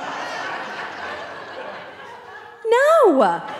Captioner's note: audience laughing